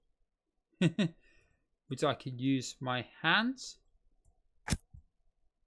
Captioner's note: chuckles